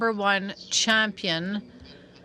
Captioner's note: speaking french